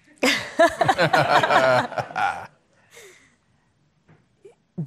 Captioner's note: attendees laughing